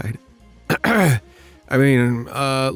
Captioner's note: clears throat